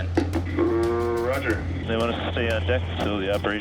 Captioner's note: man Over Radio